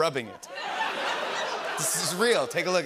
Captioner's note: laughter